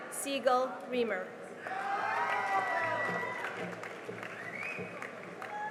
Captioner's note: cheering and applause